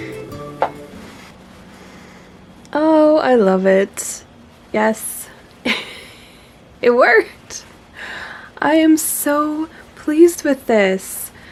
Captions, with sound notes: Oh, I love it. Yes. *giggles* It worked! I am so pleased with this.